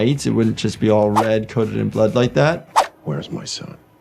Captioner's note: none